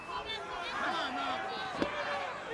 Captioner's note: crowd chatter